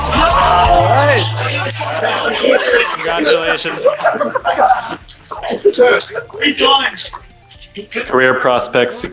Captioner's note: assorted cheers and gasps